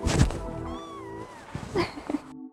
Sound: meowing; laughing

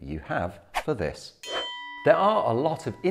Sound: bell chimes

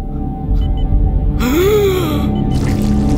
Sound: gasps

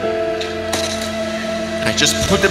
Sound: lightly smacks pen against desk

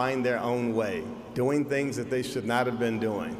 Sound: none

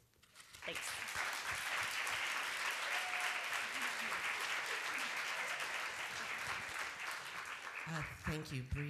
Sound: applause

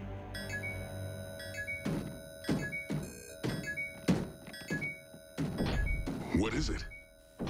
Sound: beeping

